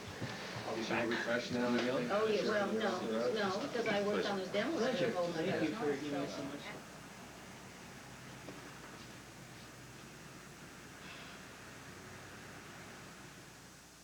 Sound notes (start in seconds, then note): 9.8 exhales